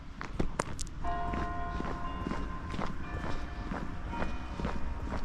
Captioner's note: church bell tolling